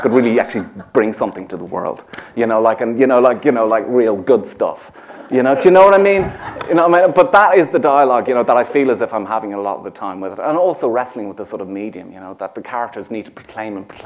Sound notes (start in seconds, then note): 5.1 laughter